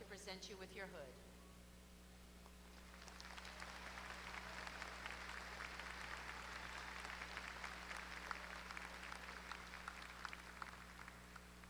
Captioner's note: applause